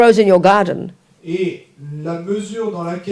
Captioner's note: speaking in French